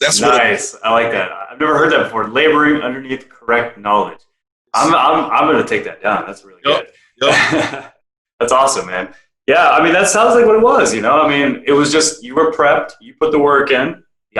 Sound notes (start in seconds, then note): 7.2 laughing